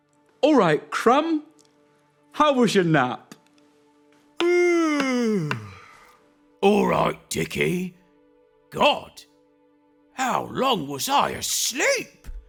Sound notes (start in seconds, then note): 4.4 yawns